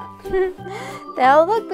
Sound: giggling

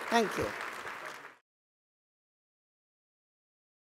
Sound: applause

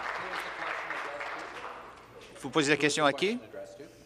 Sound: applause

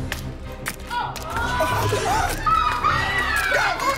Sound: children gasp; child screams

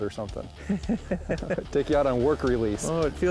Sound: laughs

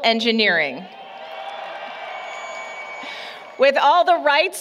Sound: applause, Cheering

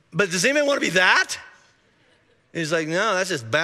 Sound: congregation laughing

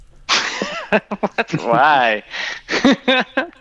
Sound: laughter

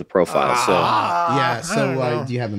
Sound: Charlie groans

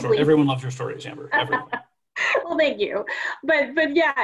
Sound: laughs

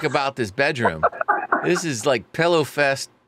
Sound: laughing

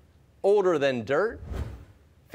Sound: none

